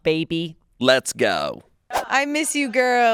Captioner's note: screen whooshes